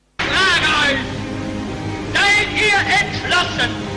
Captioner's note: speaking in German